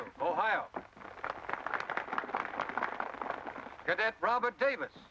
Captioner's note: applause